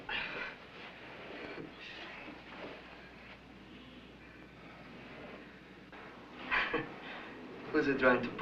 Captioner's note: scoffs